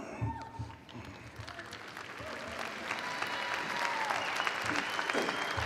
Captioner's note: audience applauding; audience cheering